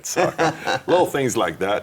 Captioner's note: laughing